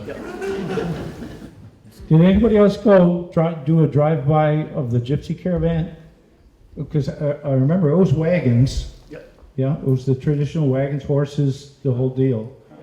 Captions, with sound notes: Yep. [laughter] Did anybody else go do a drive-by of the Gypsy caravan? Because I remember those wagons. Yeah. Yeah, it was the traditional wagons horses, the whole deal.